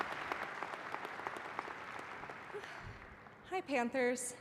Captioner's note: applause